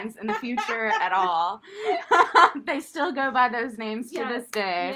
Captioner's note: laughter